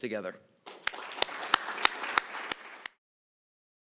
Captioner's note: applause